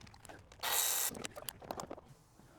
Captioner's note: drilling